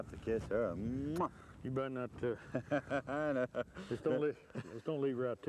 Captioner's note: laughter